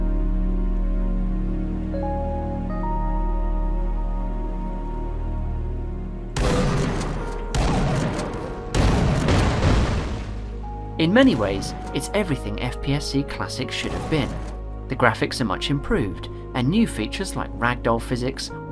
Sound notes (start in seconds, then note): 0.1 subdued music; 6.4 gun fire